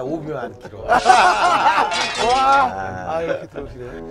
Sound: crash

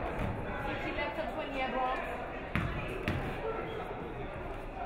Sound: speaking foreign language

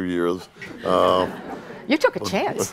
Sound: audience laughing

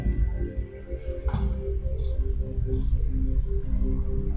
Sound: mouse clicking

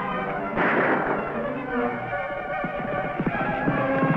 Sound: gun fires

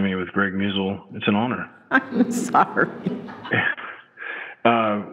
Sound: chuckling

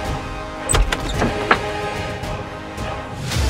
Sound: door creaks

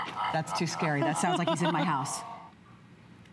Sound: laughter

